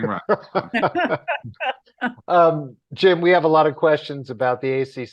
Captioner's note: everyone laughs